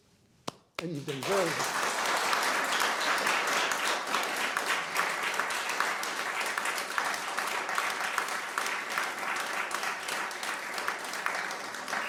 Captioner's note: applause